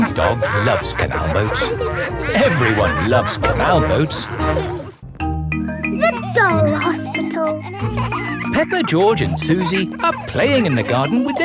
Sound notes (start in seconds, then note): 7.9 kids laughing